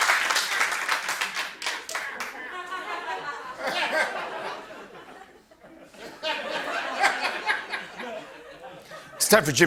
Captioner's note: laughter